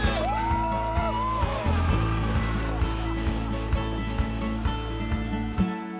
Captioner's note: screaming